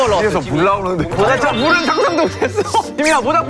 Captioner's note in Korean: ㅋㅋ